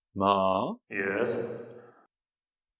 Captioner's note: echoing